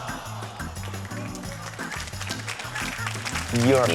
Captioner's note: applause